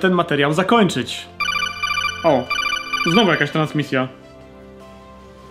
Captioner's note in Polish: dzwonek komunikatora z MGS